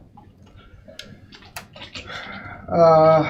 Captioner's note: keyboard clacking